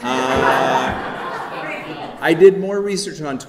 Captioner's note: audience laughing